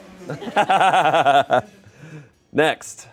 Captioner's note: everyone laughs